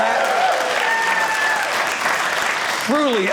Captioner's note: audience applauding